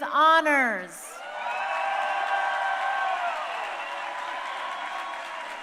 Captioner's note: crowd cheering